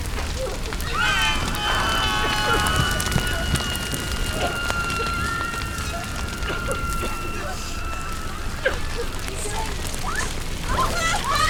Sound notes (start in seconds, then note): 0.6 sound of screaming, wailing